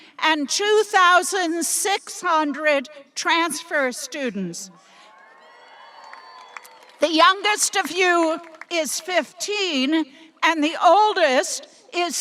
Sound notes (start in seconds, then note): 5.1 audience applauding and cheering